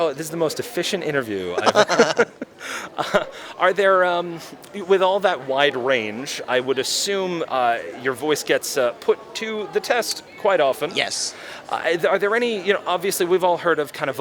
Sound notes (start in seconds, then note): 1.5 both laugh